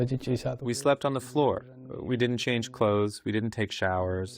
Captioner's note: through translator